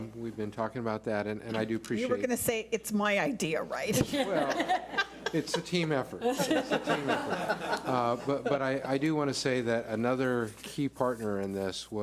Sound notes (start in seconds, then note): 3.9 laughs; 6.2 laughs